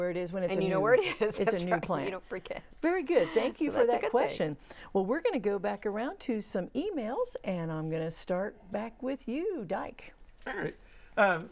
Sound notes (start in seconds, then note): 2.8 laughing